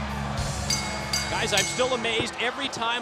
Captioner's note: crowd cheering; bell ringing